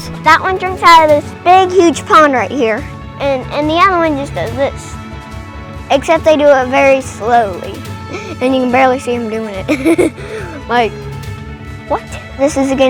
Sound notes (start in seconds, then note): 9.6 laughing